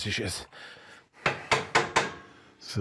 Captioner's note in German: Klopfen